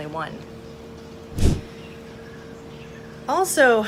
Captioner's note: air whooshes